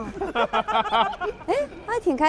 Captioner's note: hahahaha